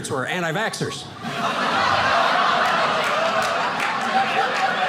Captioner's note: audience laughing